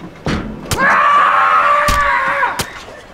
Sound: door opening; man screaming; knife hitting

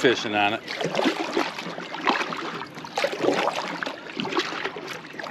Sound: water splashing

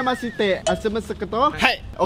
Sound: mumbling in Japanese; mumbling in Japanese continues

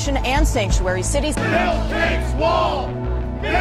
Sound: crowd

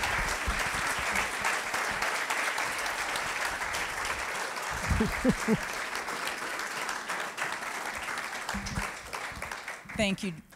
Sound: applause

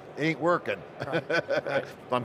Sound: laughing

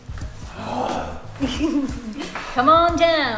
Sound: groaning

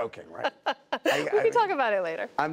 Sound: laughter

